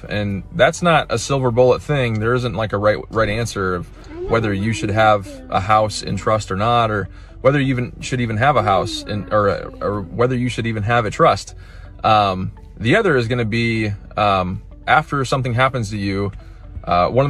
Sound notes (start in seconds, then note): 8.2 kids talking